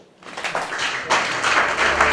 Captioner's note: applause